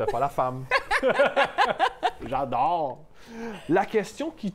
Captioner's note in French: rires